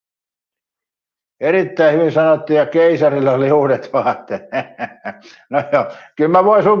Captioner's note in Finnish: naurua